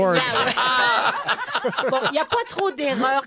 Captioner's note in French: rires